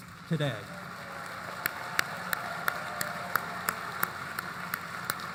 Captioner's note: applause